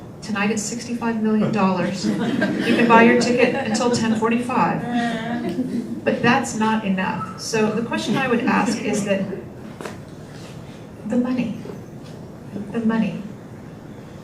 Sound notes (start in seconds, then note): 2.3 group laughter; 5.0 group laughter